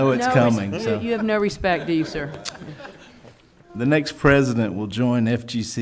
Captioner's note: laughing